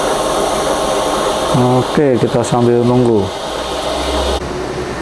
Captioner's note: printer machine sound